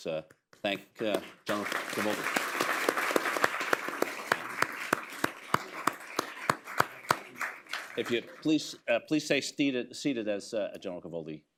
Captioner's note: applause